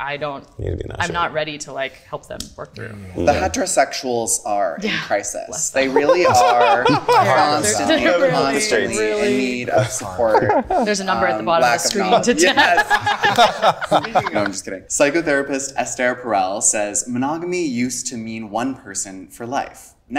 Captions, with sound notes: I don't, I'm not ready to like help them work through. - The heterosexuals are in crisis, they really are. Constantly, constantly in need of support. - There's a number at the bottom of the screen. - Yes. (group laughing) No, I'm just kidding. Psychotherapist Esther Perel says, "Monogamy used to mean one person for life.